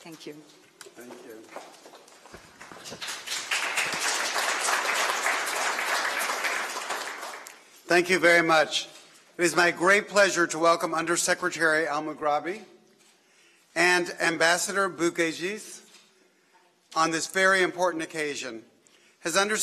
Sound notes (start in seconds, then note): 8.0 applause